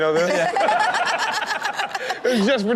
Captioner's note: all laugh